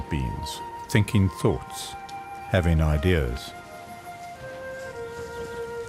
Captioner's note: animals calling